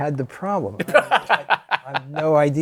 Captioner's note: laughter